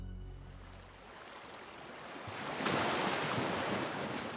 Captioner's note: water lapping